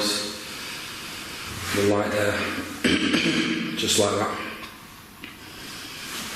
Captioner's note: clearing throat